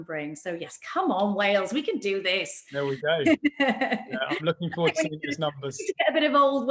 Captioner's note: laughs